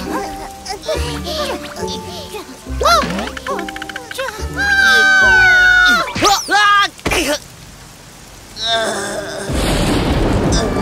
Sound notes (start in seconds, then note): 8.6 groaning